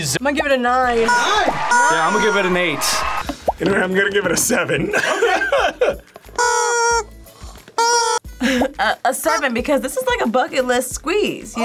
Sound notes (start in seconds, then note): 6.5 chickens squeal; 8.5 laughs